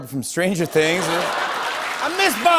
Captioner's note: laughter